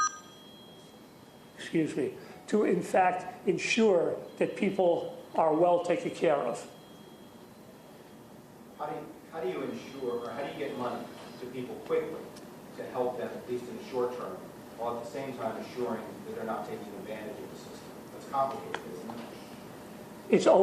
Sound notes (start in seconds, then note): 6.6 phone ring ing